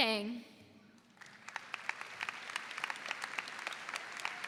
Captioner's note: audience applauds